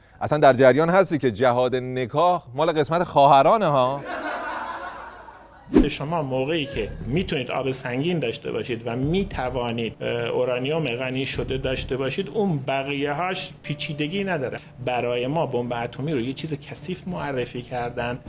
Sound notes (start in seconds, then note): 5.7 laughter